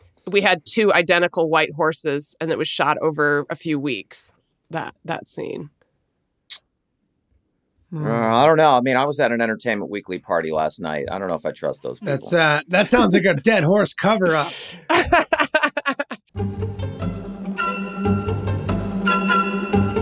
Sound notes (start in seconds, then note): 14.2 laughs; 16.8 classical music